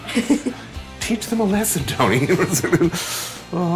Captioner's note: laughs